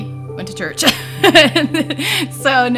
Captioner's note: laughs